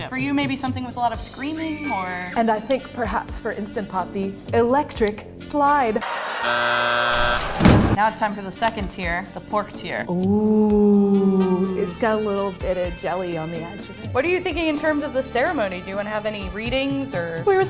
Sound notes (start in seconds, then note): 6.0 people laugh; 6.3 buzzer buzzes